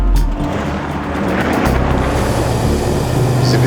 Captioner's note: car sounds